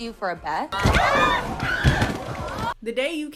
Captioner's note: screaming